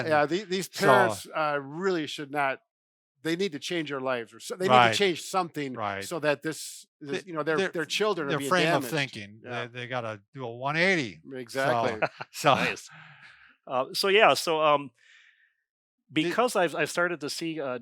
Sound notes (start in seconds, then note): 11.5 laughing